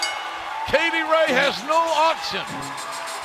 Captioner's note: bell ringing